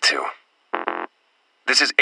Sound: access Denied Beep

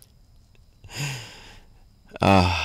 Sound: laughs

